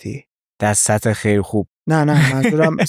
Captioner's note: laughs